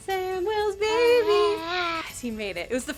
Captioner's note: baby cooing